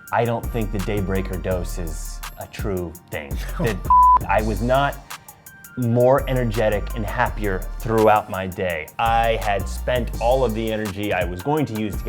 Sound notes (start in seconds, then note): 3.3 laughs; 3.9 beeping tone